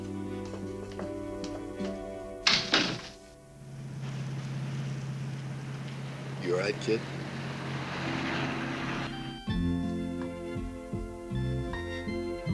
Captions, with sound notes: (door closes) - You all right, kid? (light music)